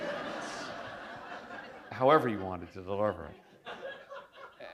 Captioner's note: laughter